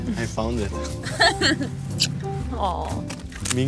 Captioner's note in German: lacht